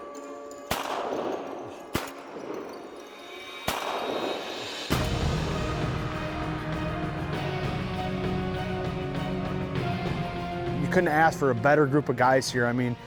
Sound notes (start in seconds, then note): 0.6 gun shots